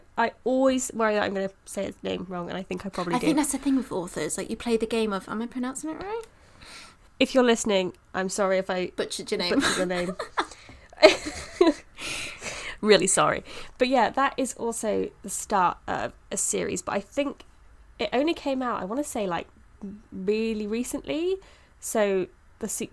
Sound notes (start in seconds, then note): 10.9 both laughing